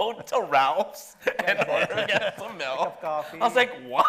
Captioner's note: laughing